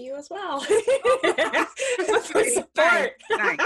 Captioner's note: laughs